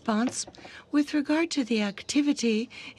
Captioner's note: speaking french